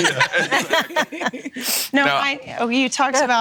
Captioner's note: laughing